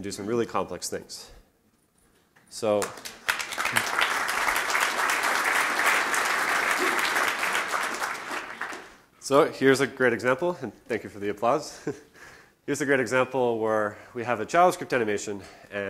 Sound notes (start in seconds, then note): 2.8 applause